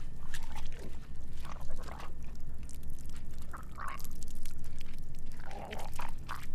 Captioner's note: splashing; gurgling